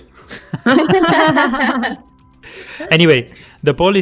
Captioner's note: laughter